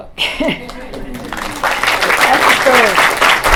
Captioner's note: applause